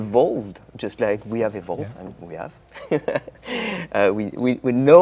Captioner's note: laughing